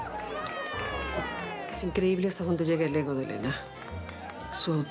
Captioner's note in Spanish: aclamaciones; aplausos